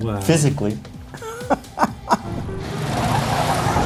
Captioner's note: laughing